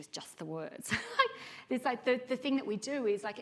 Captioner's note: chuckling